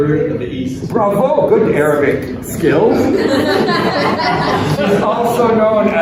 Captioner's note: laughter